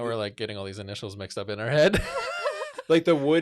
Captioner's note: laughs